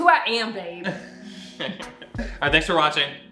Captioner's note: laughs